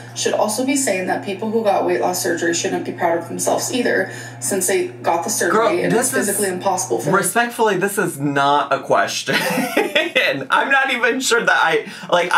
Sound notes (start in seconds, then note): 9.3 laughs